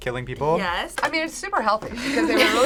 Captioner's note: both laugh